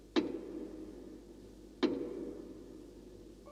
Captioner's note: knock